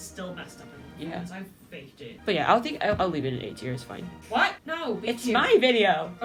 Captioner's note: none